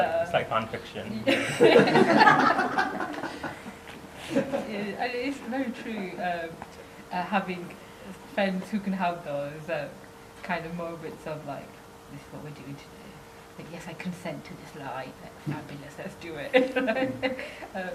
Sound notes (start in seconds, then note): 1.2 laughter